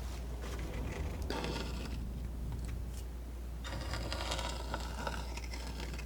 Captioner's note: scratching